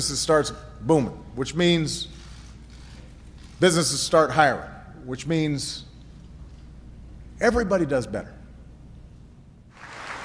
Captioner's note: applause